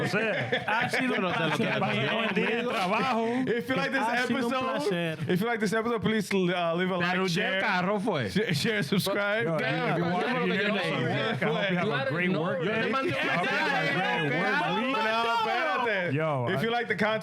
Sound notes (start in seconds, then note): 9.9 speaking In Foreign Language